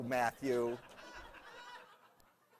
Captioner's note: laughter